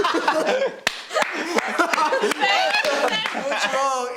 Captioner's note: everyone laughs